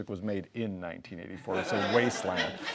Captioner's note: laughs